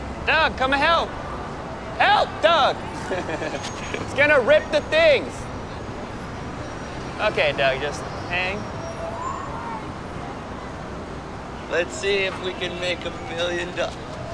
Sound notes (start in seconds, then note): 2.0 laughs